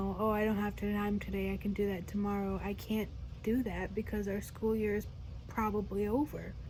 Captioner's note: none